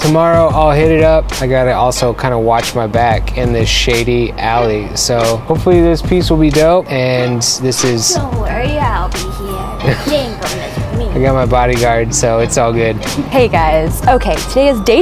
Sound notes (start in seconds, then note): 8.2 cute voice